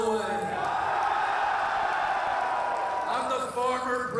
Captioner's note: crowd cheering